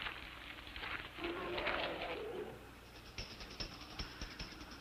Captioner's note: distant growl